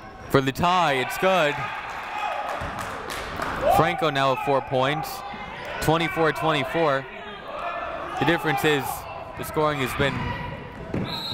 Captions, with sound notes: for the tie. It's good. (people shouting in the crowd) Franco now with four points. 24-24. The difference is the scoring has been...